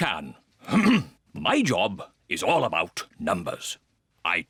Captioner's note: clears throat